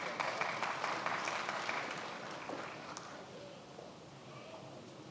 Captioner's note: many applauding